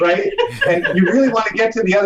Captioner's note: laughing